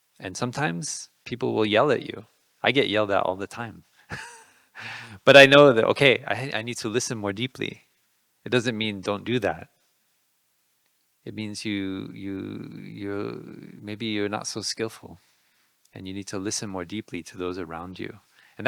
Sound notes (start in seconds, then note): 4.1 laughing